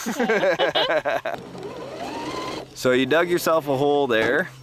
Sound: laughing

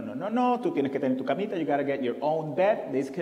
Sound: foreign language

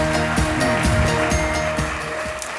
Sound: applause

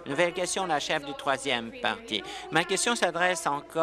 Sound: applause

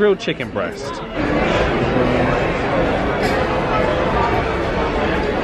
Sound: guests chattering

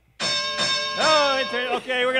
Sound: bell sounding

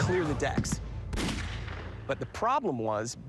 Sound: gun shots

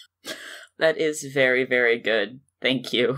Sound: wheezing laugh

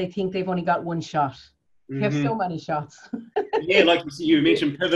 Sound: laughs

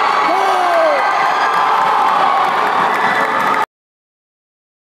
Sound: applause

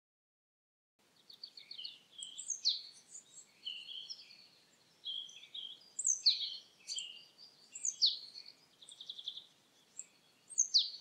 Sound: sound of birds

